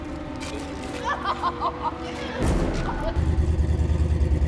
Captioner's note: laughs